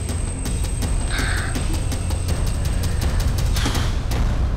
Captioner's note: sighs